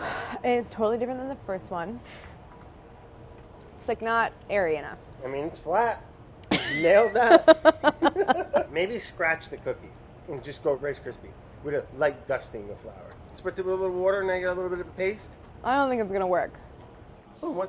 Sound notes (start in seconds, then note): 0.0 sigh; 6.5 laughing